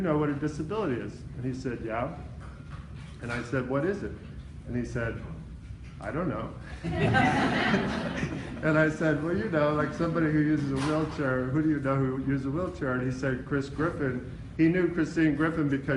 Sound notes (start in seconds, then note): 6.8 laughing